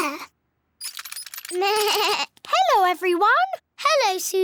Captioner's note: bleats